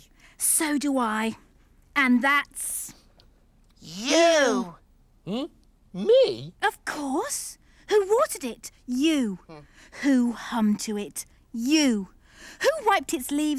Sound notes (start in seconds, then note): none